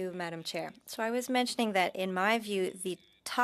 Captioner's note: speaking French